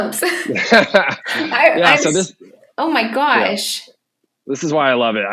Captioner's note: laughing